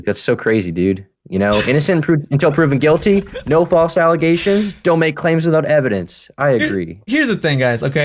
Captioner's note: laughs